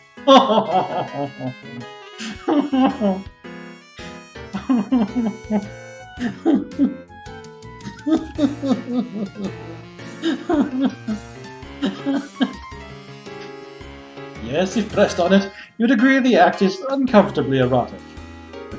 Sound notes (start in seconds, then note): 0.3 whimpering laughter; 6.2 giggling